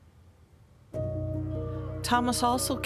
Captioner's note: city street sounds